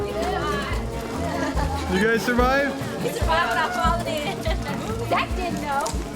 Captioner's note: laughter, chatter